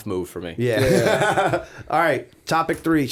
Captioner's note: chuckle